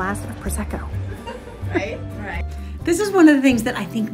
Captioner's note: people chattering